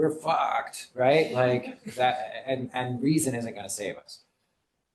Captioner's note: laughter